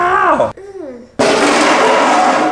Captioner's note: man groans; groans